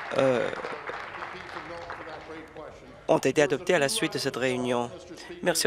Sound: applause

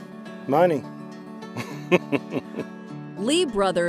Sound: chuckles lightly

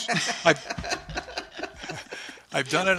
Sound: laughter

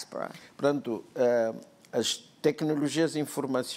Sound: speaking portuguese

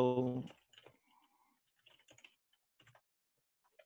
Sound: typing

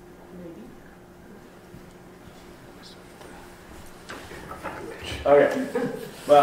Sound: people talking off-microphone

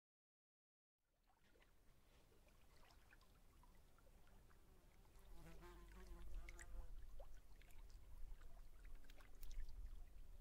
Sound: sound of lake

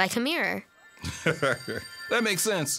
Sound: laughs

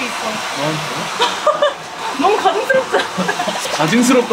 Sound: laughing

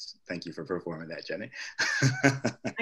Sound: laugh

